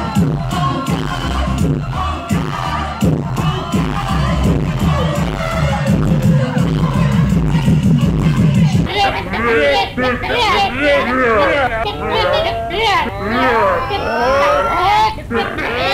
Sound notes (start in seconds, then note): 0.3 upbeat music; 9.0 crowd chanting